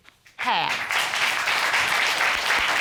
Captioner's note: audience applauding